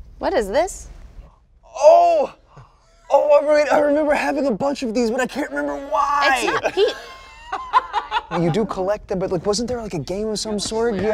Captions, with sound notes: What is this? Oh, oh I remember having a bunch of these but I can't remember why! It's not-- (laughs) You do collect them but wasn't there like a game of some sort?